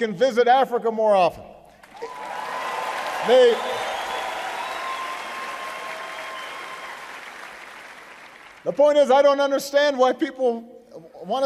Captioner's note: applause